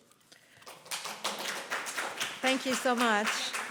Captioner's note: applause